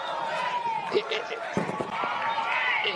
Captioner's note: crowd chanting